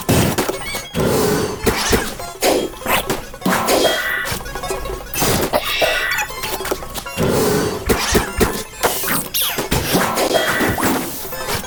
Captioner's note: haha